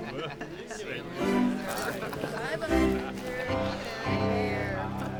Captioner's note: students snicker